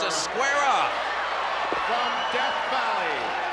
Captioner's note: applause